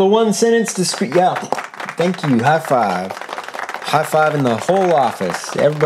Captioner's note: clapping